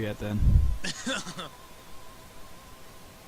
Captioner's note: chuckling